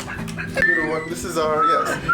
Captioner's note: devolves into laughter; whistling